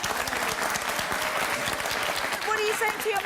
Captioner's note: audience applauding